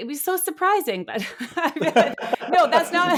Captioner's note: laughing